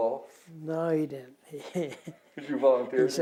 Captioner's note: laughter